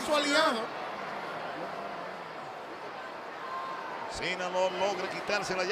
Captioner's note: applause